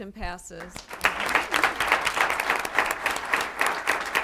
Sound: applause

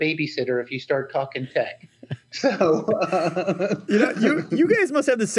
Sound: laughs

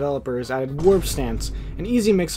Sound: Vine boom sound effect

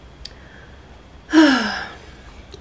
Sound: sigh

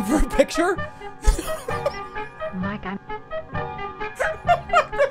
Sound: repetitive horn music plays; laughs

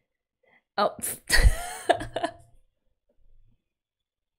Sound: laughs

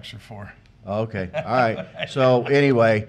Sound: laughing

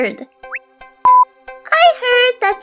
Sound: inquisitive beep

